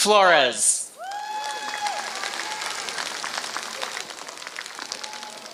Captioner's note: applause